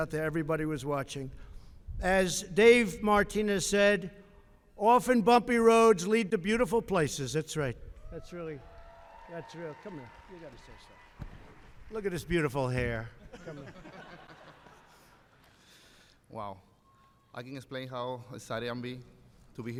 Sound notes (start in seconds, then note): 8.4 applause; 13.2 laughter